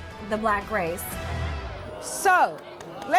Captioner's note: crowd jeers